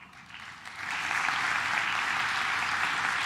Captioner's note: claps